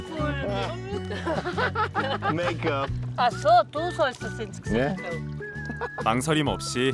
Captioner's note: laughter